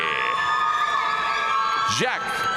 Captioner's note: audience cheering and applauding